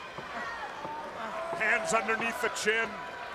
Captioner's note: crowd chatter